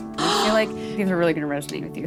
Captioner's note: gasping